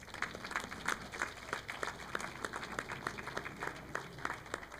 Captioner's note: audience clapping